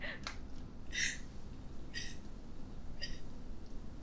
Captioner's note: Linda sobbing